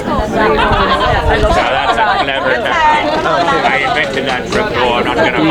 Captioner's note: people chattering